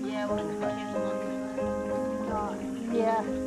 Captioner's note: happy chatter